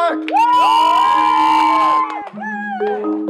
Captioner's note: cheering